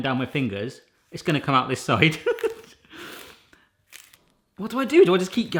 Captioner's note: laughs